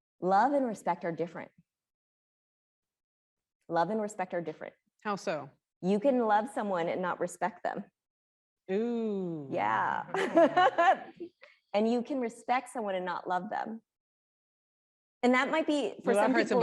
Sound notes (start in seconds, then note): 10.0 laughing